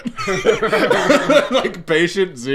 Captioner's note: laughing